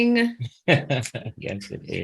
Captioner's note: chuckles